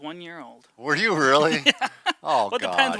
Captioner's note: both laughs